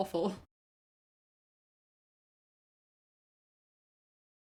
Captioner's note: audio removed for copyright reasons